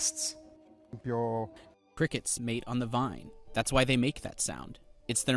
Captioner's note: through translator